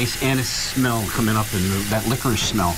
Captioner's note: sizzling